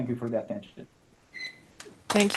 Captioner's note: applause